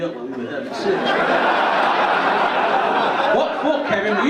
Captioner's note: audience laugh